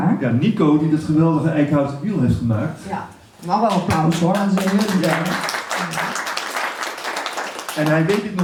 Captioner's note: hand clapping